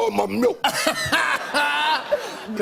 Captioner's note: laughter